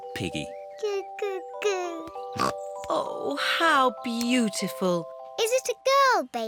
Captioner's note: snorts